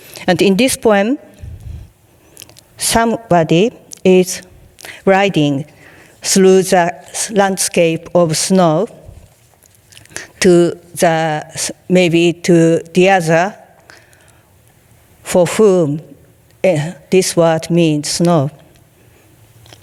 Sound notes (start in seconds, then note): 15.4 speaking in foreign language